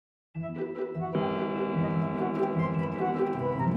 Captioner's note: clock chiming